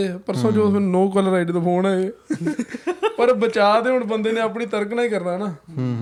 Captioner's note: laughter